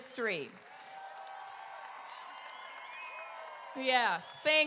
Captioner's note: crowd cheering